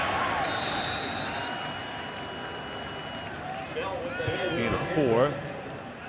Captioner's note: whistle blowing